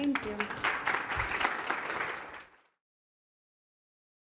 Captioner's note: applause